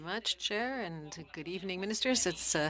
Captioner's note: speaking French